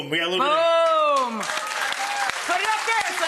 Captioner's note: audience applause